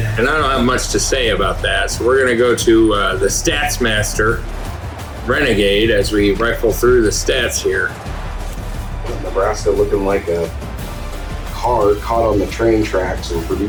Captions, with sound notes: And I don't have much to say about that. So we're gonna go to the stats master renegade as we rifle through the stats here. [Crowd Noises] Nebraska looking like a car caught on the train tracks and for the